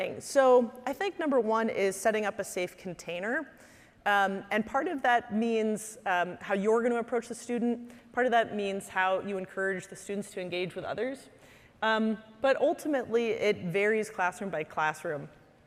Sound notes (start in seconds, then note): none